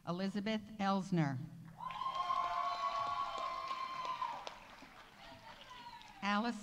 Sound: audience cheering; audience applauding

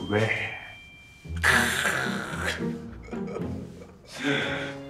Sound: laughs

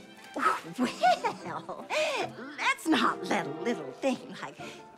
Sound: laughs

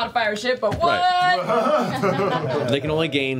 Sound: all laugh

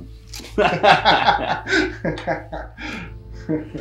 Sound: all laughing; minimal somber music

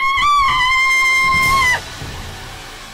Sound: screaming; dramatic music

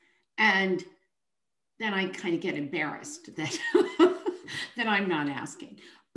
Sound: chuckles

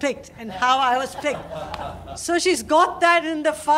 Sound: laughter

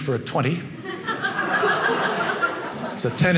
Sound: audience laughing

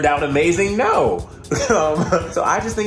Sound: laughs

